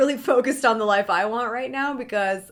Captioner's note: chuckles